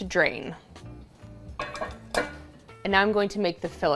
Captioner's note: bowl clattering